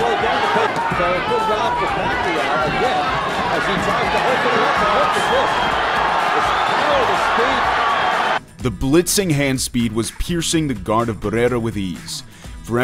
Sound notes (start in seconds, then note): 0.0 crowd cheering